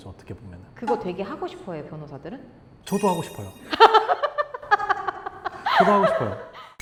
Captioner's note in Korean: 웃음